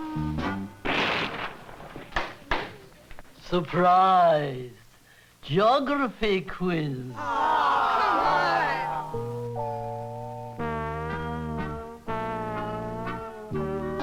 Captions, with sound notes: (cane tapping) - Surprise, geography quiz. (children groaning) (playful music)